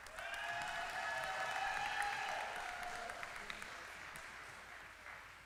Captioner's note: applause